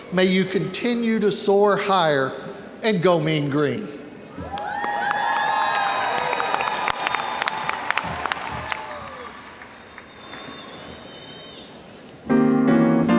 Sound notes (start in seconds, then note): 4.4 audience cheers and applauds